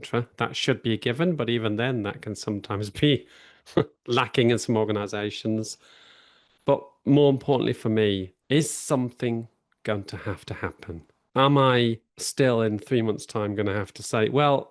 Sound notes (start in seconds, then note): 3.7 chuckles